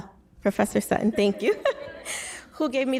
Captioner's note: laughs